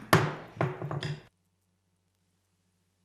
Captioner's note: banging